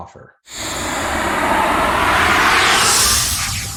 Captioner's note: logo whooshing